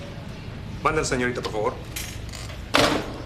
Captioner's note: speaking Spanish